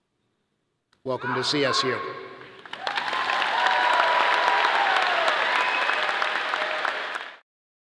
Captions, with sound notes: Welcome to CSU. (audience cheering and clapping)